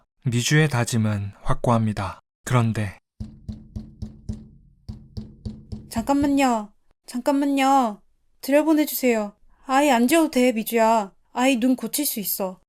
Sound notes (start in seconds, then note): 3.1 knocking